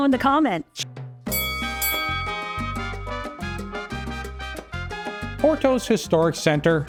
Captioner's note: lighthearted music; bell dings